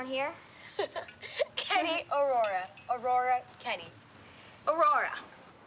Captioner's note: laughing